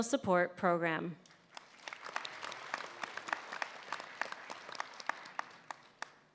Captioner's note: applause